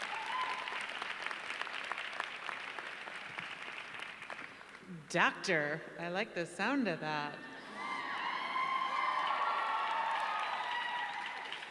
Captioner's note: applause